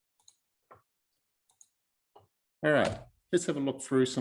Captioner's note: mouse clicking